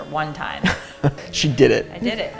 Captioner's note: laughs